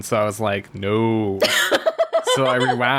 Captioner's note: laughs